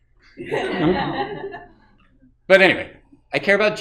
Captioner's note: audience laughing